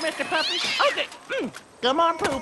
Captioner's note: yowling cat